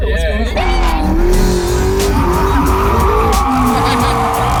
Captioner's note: engine roars & tires screech; laughs